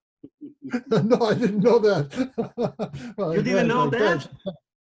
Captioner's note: laughs